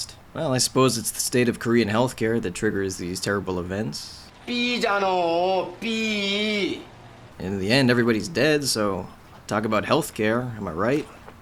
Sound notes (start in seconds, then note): 3.7 speaks Korean